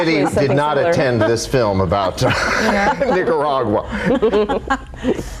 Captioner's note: laughs; laughing